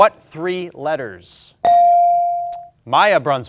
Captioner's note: ding chimes